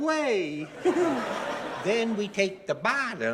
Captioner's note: audience laughing